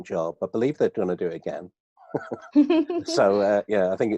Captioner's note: laughs